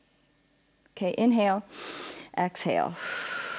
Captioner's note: inhales; exhales